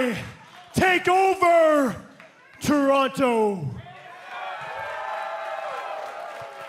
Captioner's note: crowd cheering